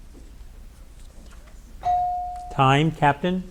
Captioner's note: bell dings